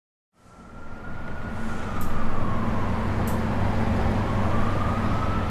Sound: Sonidos del ambiente de la ciudad de nueva york

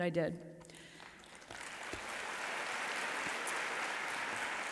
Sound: audience applauds

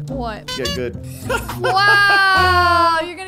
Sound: laughing

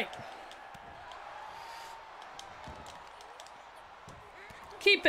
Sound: applause

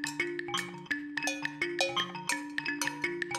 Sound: clang, clang of cow bell

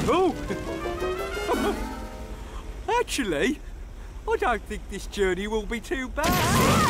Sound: screaming

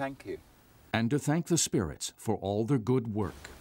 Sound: voiceover

